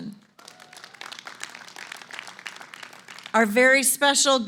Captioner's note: applause